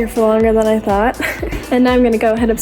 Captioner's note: laughs